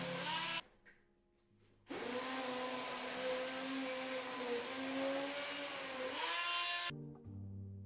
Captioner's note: blender Whirring; blender Whirring; soft Music